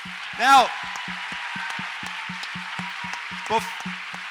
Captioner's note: audience applauds